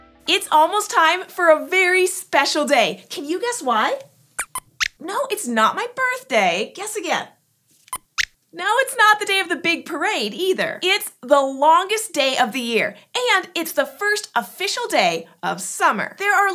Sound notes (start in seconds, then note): 4.4 squeaks squeaks; 6.9 squeaks squeaks